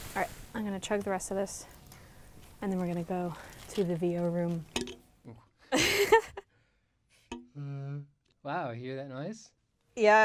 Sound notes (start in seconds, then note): 4.8 pluck; 5.8 laughing; 7.4 pluck